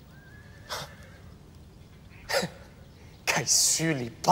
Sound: friend scoffs; friend speaking in foreign language

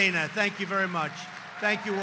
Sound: applause

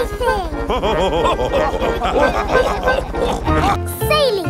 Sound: chuckles; all laughing

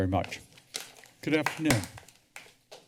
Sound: paper shuffling

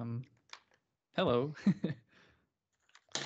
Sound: chuckles

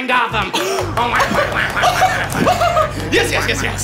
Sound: laughing

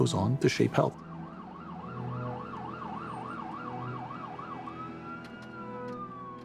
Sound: siren

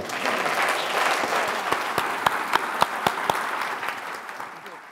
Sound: audience applauding

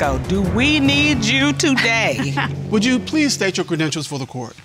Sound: chuckles

